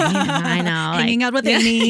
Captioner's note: laughing